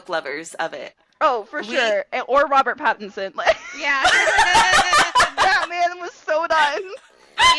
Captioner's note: laughter